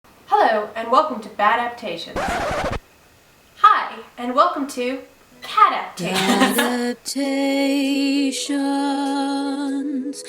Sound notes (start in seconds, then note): 2.1 record Scratch; 6.0 laughter